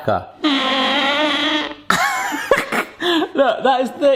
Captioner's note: gadget squeaking